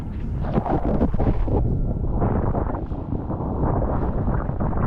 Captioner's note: underwater wave crashing